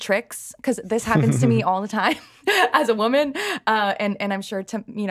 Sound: laughs

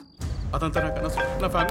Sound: phone rings

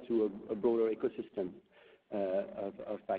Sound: none

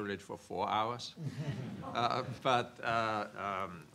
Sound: laughs

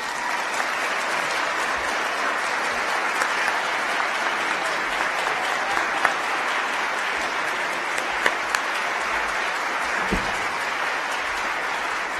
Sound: applause

